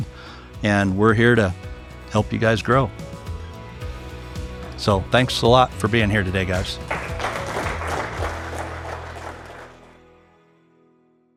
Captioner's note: upbeat music; clapping